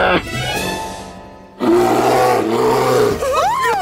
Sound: grunting; roaring

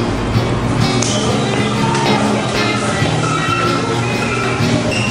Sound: people chattering

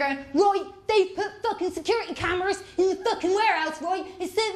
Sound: broad accent

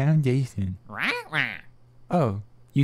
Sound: angrily squawking

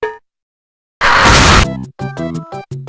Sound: boom

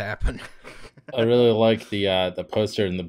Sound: laughter

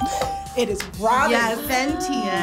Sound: buzzer chimes; bell chimes

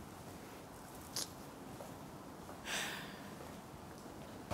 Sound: sighs

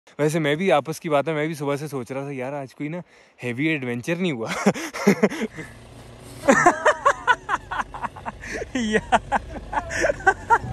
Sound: laughs

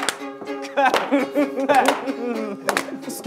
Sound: laughter

